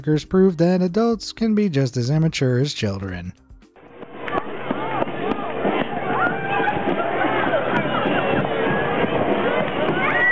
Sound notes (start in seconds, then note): 4.0 child screaming; 4.2 people chattering